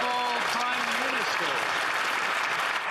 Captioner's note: some Applause